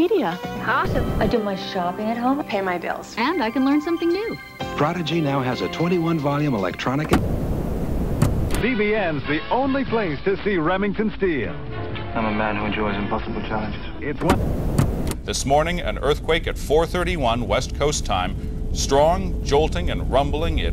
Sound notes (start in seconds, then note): 4.4 enchanted music; 7.1 television static hissing; 14.1 television static hissing